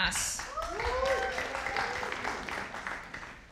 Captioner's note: audience applauding